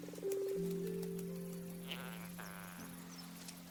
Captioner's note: insects buzzing